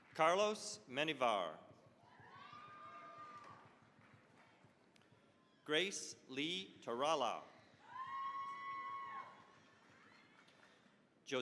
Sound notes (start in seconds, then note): 2.0 cheering, applause; 7.8 cheering, applause